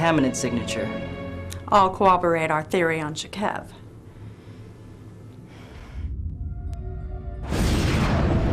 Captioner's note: angry sigh